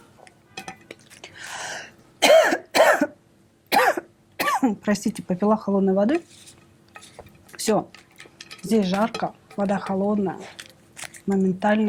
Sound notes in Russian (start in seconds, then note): 3.9 кашель